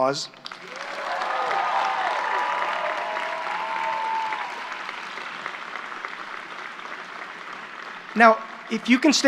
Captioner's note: applause